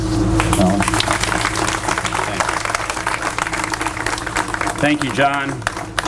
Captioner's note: applause